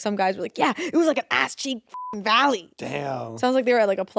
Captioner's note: beeps